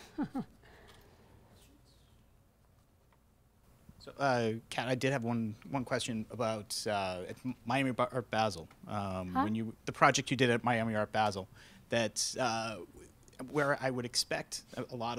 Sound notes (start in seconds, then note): 0.0 laughs; 4.8 voiceover; 9.8 voiceover